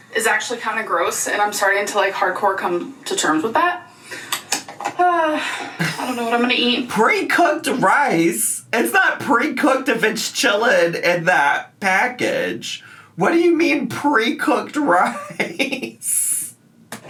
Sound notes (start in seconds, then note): 4.8 sighs; 14.9 laughs